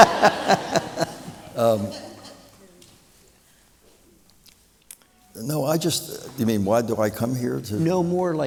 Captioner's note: laughter